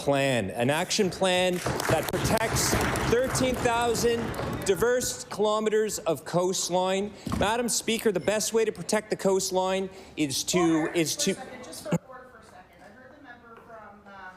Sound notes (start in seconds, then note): 5.0 applause